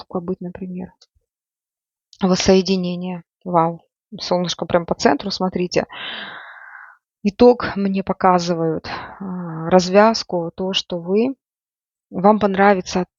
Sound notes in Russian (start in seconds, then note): 5.9 тяжело вздыхает; 6.0 вздыхает